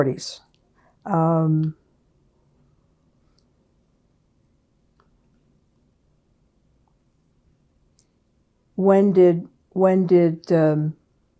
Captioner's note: pauses 8 seconds